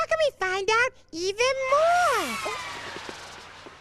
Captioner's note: wind blows